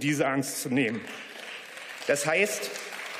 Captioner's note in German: Beifall